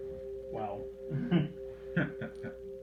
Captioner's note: chuckles